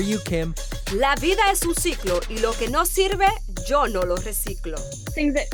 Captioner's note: speaks in foreign language